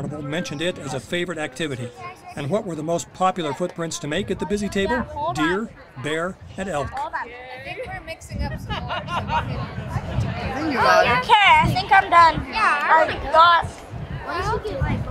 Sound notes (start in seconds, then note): 8.4 people laughing